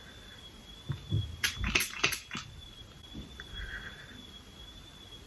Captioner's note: bottle squirting